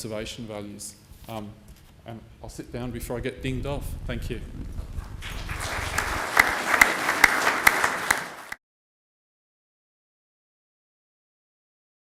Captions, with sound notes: conservation values. I'll sit down before I get dinged off. Thank you. (clapping)